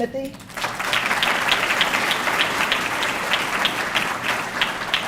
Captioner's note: audience clapping